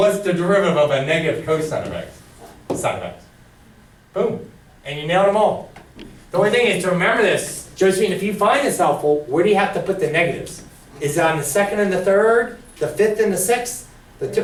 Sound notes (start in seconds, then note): 3.0 voiceover